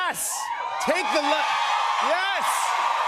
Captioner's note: cheers and applause